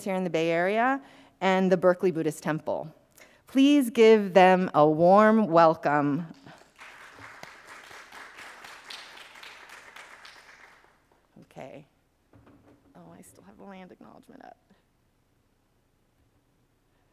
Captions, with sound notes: here in the Bay Area and the Berkeley Buddhist Temple. Please give them a warm welcome. (audience applauding) Okay. Oh, I still have the land acknowledgement up.